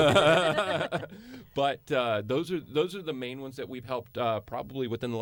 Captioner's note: laughter